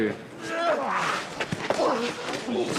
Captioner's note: both grunting